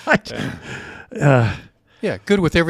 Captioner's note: sighs